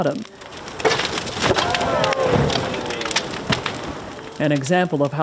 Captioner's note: boards crashing